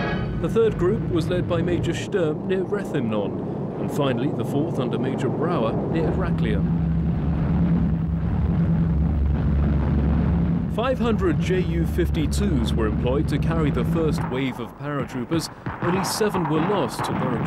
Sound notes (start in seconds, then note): 7.8 airplanes flying